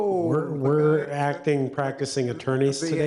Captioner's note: people chuckling